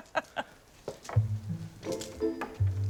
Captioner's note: laughs